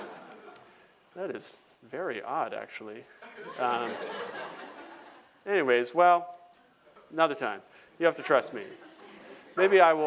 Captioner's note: laughter; laughter